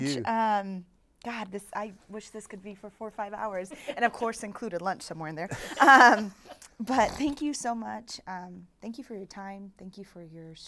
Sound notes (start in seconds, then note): 5.5 laughs